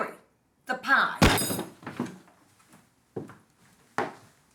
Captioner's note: table thumping